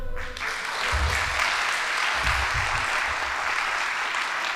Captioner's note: audience applauding